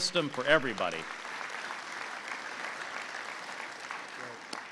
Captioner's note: applause